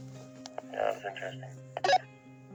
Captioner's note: participant on radio; radio chirps